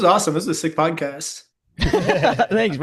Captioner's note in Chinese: 笑声